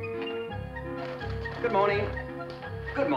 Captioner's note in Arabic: صوت الآلة الكاتبة